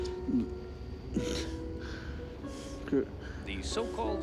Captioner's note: mutters